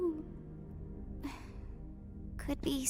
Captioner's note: sighs